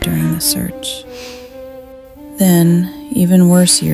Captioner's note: woman sighs